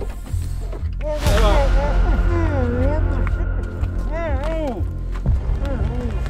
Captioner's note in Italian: Lamentele smorzate